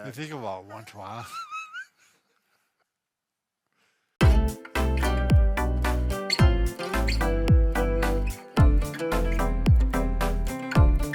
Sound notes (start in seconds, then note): 1.2 both chuckling; 4.2 upbeat music